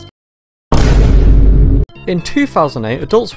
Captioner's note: Vine Boom